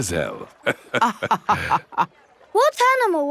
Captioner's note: both laughing